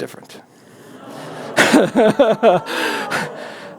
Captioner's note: groans